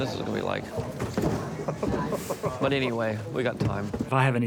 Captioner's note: laughs